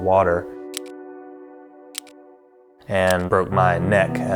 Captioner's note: slides clicking